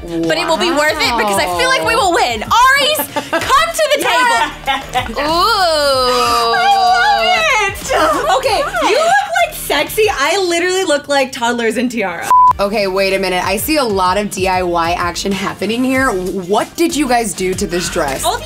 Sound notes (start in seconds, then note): 4.1 laughs; 12.3 beeps